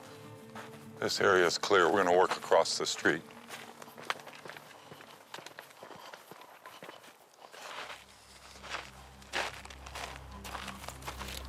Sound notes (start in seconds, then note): 3.4 breathing heavily; 8.0 tense music